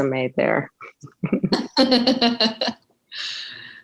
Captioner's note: laughing